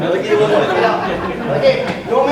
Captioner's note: audience laughing